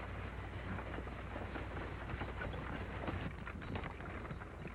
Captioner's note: wagon rattling